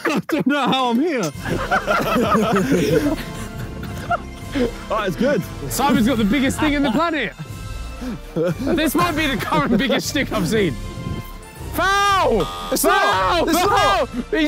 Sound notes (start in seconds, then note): 0.0 laughs; 1.7 inspirational music begins; 12.4 buzzer buzzing